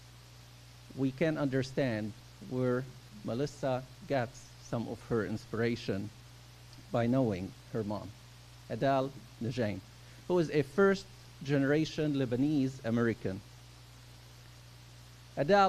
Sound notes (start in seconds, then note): 4.7 speaking arabic